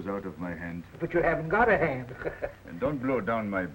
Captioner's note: chuckles